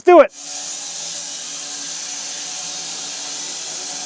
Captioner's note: saw whirring